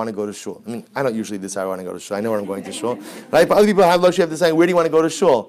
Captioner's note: background laughter